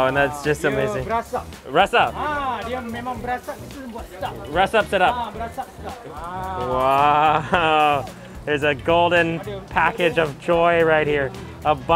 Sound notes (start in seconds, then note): 1.1 chef speaks in a foreign language; 1.9 speaks in foreign language; 2.8 chef speaks in a foreign language; 4.6 speaks in foreign language